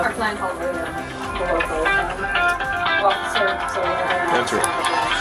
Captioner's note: cell phone ringing